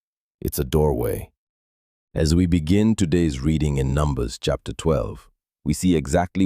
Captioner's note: thoughtful